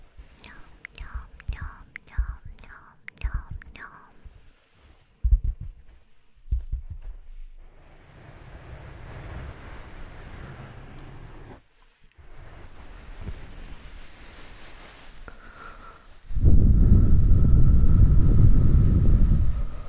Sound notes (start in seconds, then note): 7.8 ear blowing through earmuffs